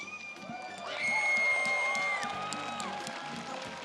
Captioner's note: audience cheers